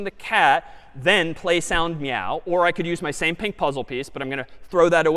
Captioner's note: none